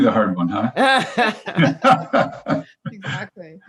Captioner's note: all laughing